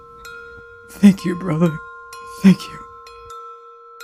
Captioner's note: in tears of joy